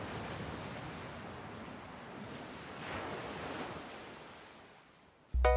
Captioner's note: waves continue crashing